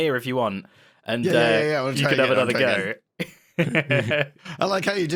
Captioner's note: laughs